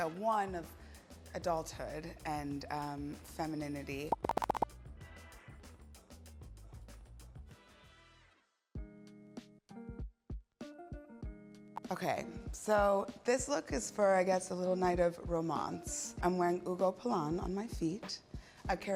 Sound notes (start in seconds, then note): 4.2 four pops